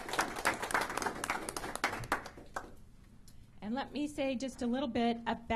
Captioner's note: applause